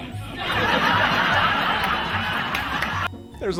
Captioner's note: crowd laughing